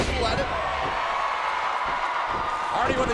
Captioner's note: audience cheering